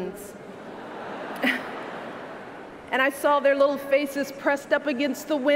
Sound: laughter

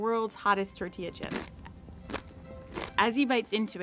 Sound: crunch

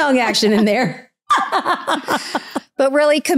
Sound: both laughing

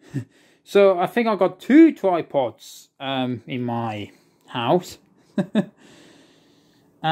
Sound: chuckles

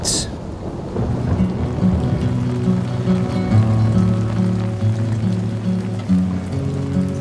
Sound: thunder rumbling; soft upbeat music

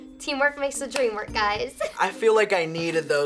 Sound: laughs

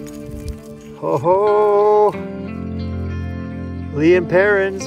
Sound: cheers

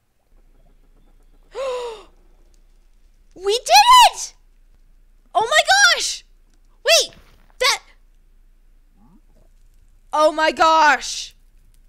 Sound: gasp

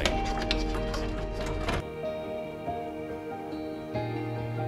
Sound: parts clattering; gentle music continues

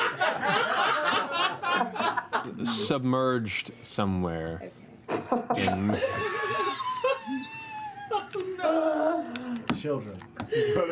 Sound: laughter

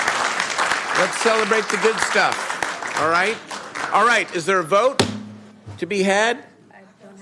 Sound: applause

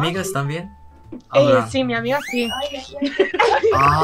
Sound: Spanish

